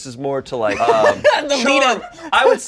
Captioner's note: laughs